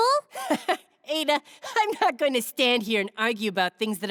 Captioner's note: laughing